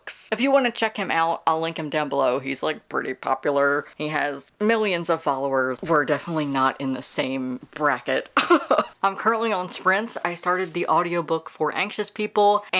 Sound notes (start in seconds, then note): 8.4 laughing